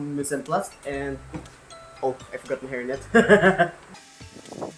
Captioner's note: laughs